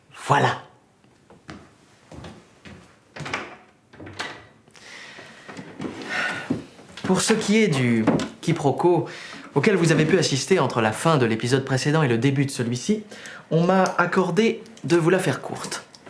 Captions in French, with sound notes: Voilà ! [Bruits de pas s'éloignant] [Bruit de porte qui se ferme] [Soupir] Pour ce qui est du quiproquo auquel vous avez pu assister entre la fin de l'épisode précédent et le début de celui-ci, on m'a accordé de vous la faire courte.